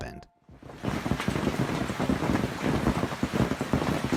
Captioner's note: rain pounding